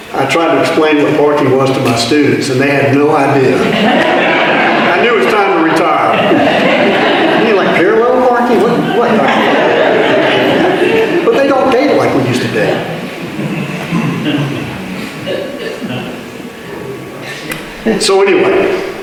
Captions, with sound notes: I tried to explain what "parking" was to my students, and they had no idea. [Audience laughter continues] I knew it's time to retire. [Audience laughter continues] But they don't date like we use to date. And so anyway,